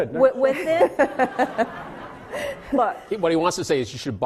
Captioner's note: laughing